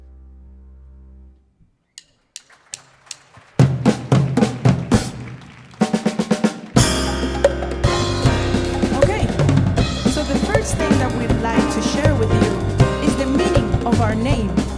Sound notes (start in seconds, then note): 2.3 audience applauding; 3.8 upbeat percussive music